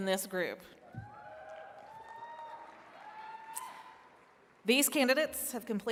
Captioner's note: attendees cheering and clapping